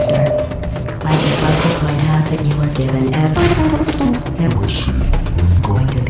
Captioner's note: mechanical gibberish